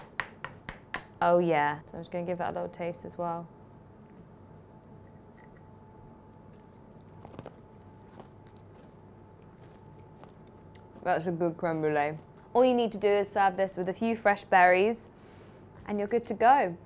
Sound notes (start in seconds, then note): 4.3 pause